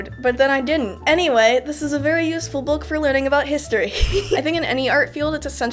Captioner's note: laughter